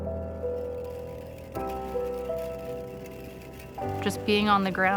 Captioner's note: rattling